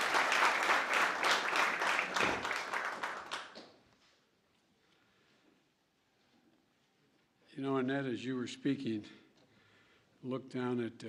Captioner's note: applause